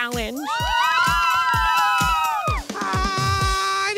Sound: cheering

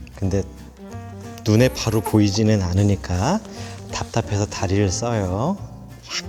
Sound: struggling

